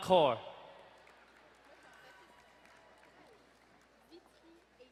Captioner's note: distant cheering